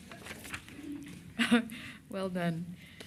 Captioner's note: laughter